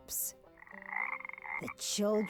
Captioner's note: frog croaking loudly